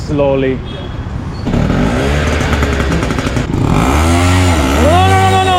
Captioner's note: rickshaw engine